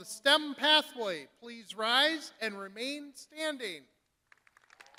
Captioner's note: crowd applauding